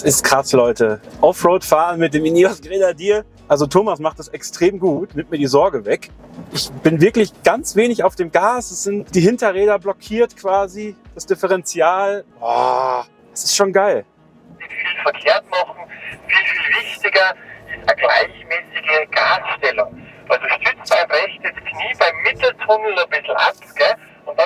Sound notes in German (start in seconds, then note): 14.4 über Funk